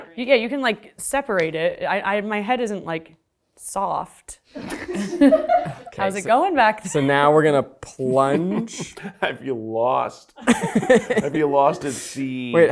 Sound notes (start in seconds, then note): 4.6 and crew laugh; 10.4 laugh